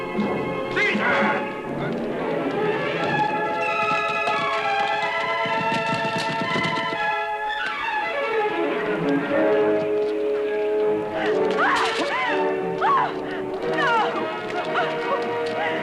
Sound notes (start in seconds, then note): 2.2 dramatic music; 11.6 screaming